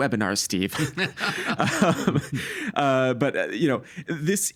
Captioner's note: both laughing